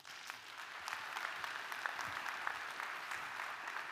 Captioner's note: audience applauding